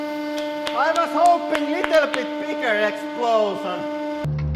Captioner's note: clapping